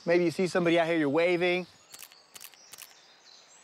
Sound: camera clicking

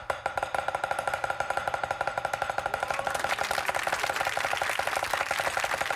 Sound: loud chopping; applause; crowd

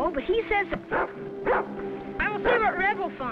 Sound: Rebel barking

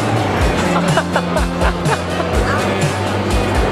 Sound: laughing

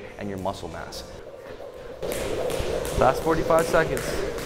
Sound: jumping sounds

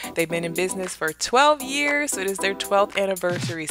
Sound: none

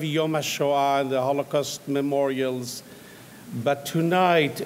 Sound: speaks in foreign language

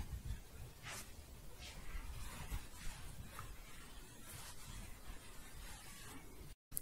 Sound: scratching and shuffling

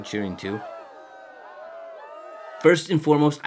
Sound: crowd cheering

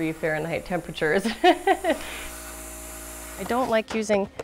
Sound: laughs

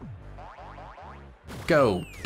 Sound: footsteps stomping

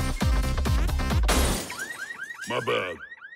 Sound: alarms blaring

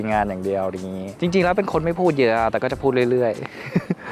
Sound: laugh

